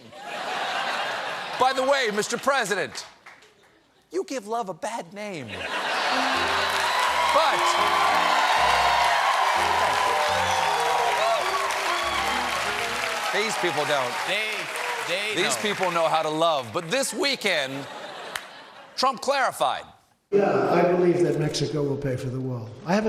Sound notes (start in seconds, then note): 5.1 piano riff; 5.4 laughter; 6.1 applause; 17.6 laughter